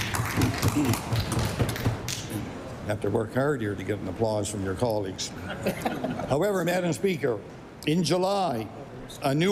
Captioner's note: applause